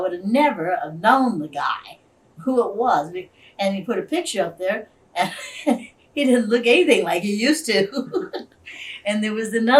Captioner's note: laughs